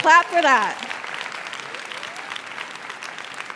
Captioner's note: cheers and applause